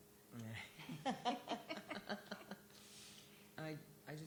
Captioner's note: laughter